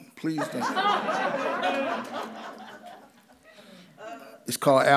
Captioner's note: audience laughs